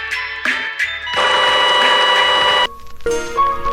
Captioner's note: agonizing Sound